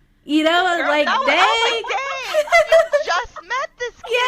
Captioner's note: laughter